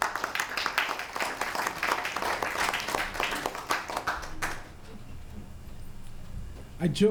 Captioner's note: applause